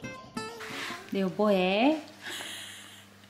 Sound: laughs

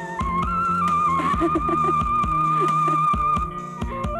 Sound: laughs

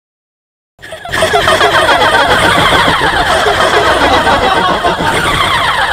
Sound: demonic laughters

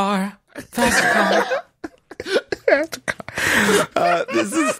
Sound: laughter

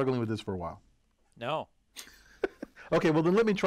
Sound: laugh

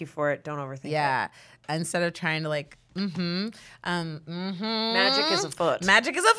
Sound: hums

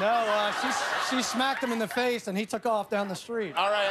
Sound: laughter

